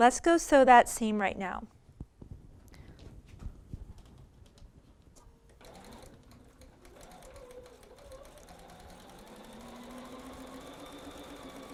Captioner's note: sewing